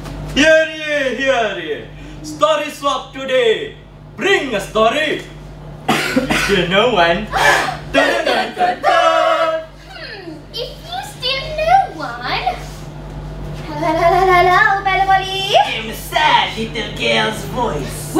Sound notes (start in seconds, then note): 7.7 dramatic gasp